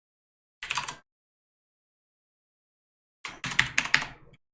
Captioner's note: types keyboard